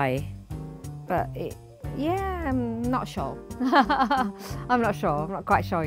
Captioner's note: laughing